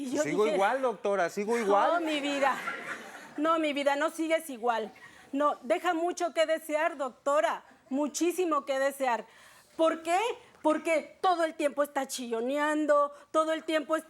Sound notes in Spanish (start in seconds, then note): 3.6 Risas del público